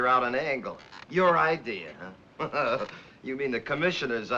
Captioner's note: chuckles